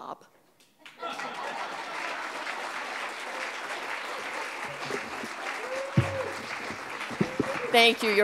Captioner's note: audience clapping; audience laughing